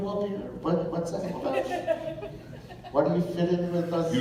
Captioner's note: chuckles